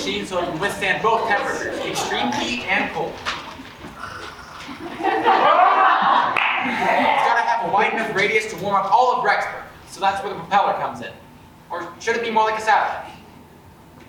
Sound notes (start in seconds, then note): 4.0 Perry the Platypus noise; 4.2 audience laughs and cheers